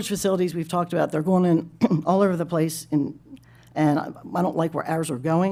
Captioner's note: clears throat